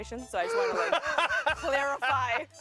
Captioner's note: laughs